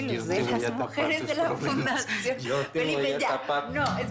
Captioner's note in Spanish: Risas; Hablan al unísono